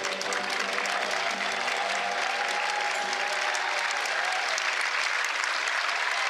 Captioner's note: applause